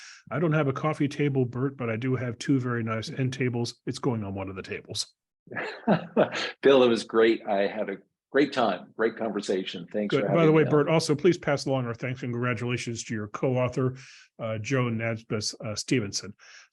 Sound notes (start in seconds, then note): 5.5 laugh